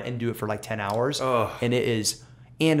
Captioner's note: groaning